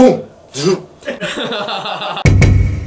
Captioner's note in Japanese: 笑い